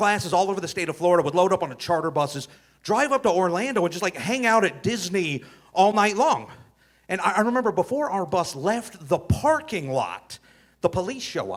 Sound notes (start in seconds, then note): none